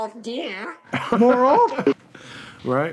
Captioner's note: laughter